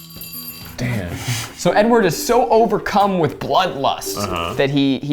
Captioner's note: petri dish scrapes